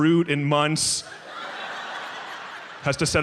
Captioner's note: audience laughs